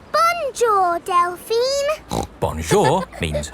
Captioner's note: snorts